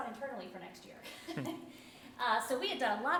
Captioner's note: laughing